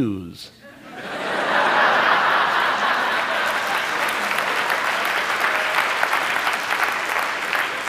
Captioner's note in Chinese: 笑聲; 掌聲